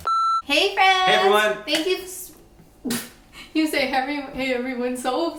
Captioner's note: beep; laughs